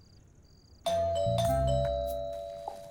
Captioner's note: door bell rings